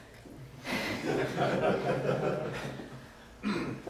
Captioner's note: laughs